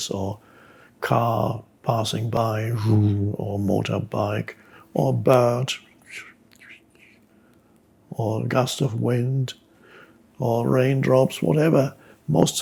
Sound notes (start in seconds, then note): 1.6 makes car engine noise; 5.8 makes bird chirping noise